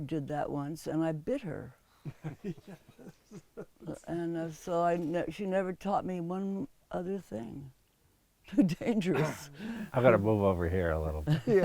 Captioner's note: laughs